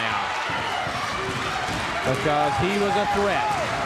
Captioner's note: crowd cheering